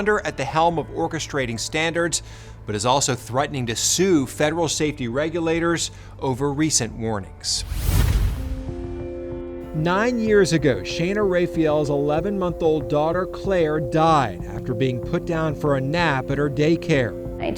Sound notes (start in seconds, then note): 7.5 logo whooshes